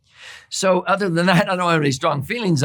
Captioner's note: laughs